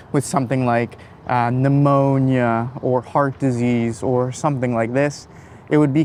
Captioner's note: none